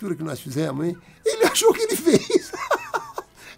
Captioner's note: laughs